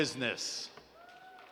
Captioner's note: applause